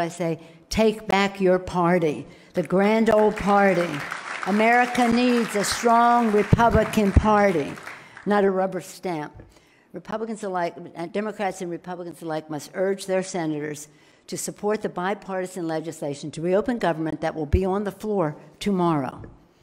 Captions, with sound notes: I say, take back your party, the Grand Old Party. (loud clapping) America needs a strong Republican party, not a rubber stamp. Democrats and Republicans alike must urge their Senators to support the bipartisan legislation, to reopen government that will be on the floor tomorrow.